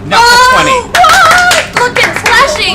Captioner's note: cheering